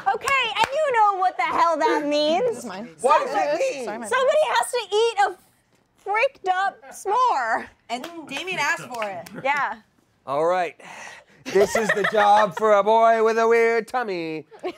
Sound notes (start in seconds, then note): 11.5 laughing